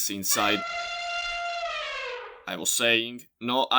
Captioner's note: elephant sound